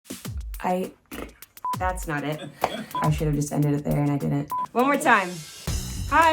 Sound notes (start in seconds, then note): 1.0 mouth fart; 1.6 beep; 4.5 beep